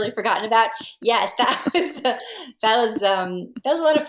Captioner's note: both laughing